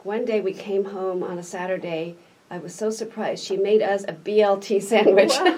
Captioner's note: laughs